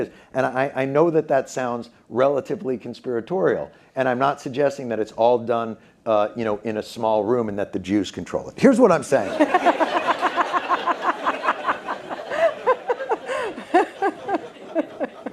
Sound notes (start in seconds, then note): 9.2 laughter